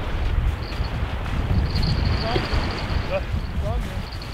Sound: jingling

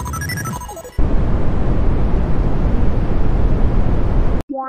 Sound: brown noise

